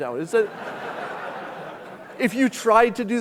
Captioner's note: audience laughing